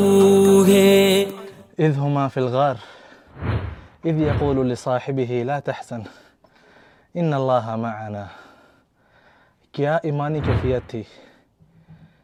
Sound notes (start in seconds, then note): 1.7 Arabic